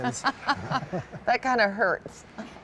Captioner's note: laughter